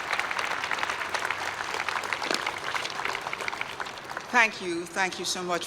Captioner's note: applause